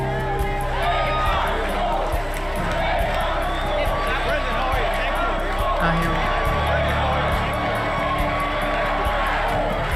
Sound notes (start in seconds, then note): 0.0 chanting, no annexation, vote no; 5.0 chanting, vote no, vote yes